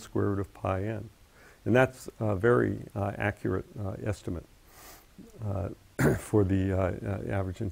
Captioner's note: cough